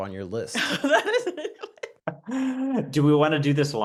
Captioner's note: everyone laughs